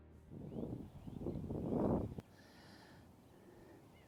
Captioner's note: wind noise